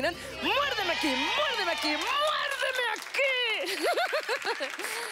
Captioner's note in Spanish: Risas